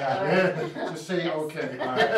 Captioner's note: laughing